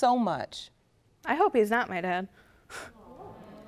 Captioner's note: scoffs